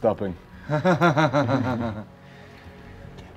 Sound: laughing

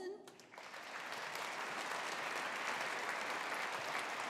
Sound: audience applauding

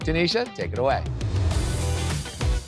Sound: graphics whoosh; upbeat music intensifies

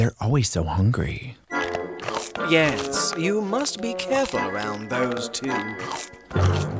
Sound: chomp, Chomp

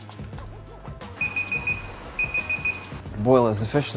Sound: timer beeping

